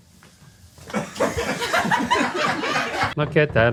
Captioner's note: crew laughing